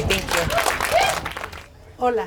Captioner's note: people applauding